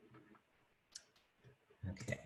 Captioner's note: clicking